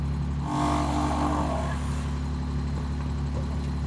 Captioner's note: saw cutting wood